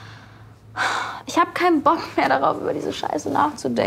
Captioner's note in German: Seufzen